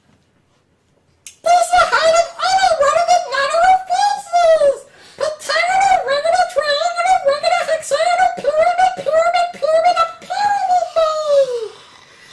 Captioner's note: in his Devil Yoshi/Devil Elmo voice